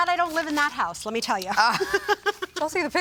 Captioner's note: judges chuckle